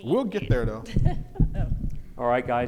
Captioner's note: laughing